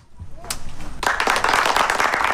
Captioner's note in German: Applaus